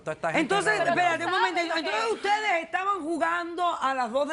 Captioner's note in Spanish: Hablan al unísono